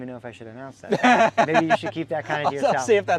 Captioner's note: laughing